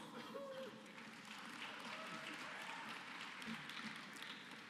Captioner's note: applause